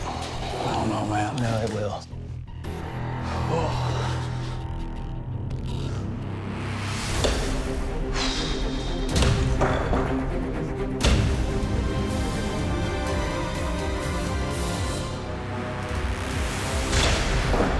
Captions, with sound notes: -I dunno, man. -No, it will. [exhales] -[exhales] -[debris clatters]